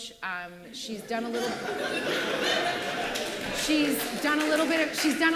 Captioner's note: laughing